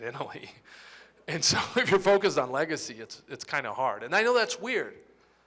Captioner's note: laughter